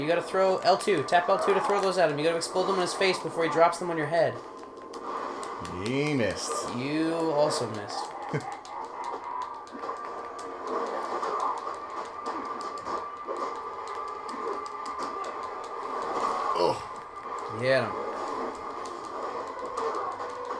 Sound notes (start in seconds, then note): 13.6 laugh